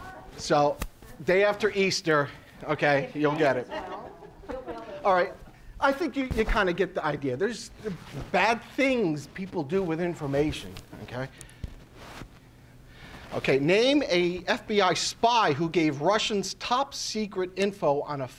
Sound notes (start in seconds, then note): 3.0 audience talking